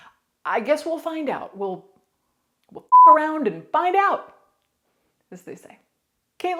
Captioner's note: beep